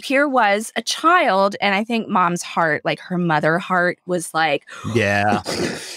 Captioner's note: imitates explosion